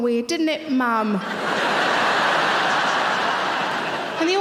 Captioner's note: audience laughing